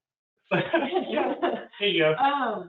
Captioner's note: all giggling